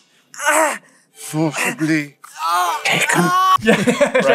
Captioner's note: screaming; laughter